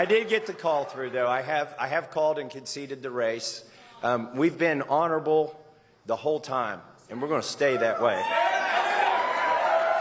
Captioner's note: applause